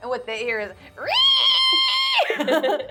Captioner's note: screeching; laughing